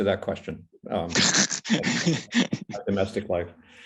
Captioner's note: laughs